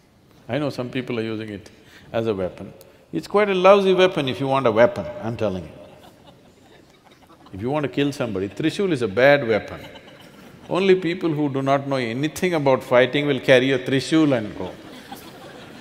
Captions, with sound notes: I know some people are using it as a weapon. It's quite a lousy weapon, if you want a weapon, I'm telling you (Few laugh). If you want to kill somebody, trishul is a bad weapon. Only people who do not know anything about fighting will carry a trishul and go (Laughter).